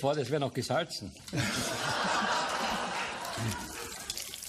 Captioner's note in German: Lachen im Publikum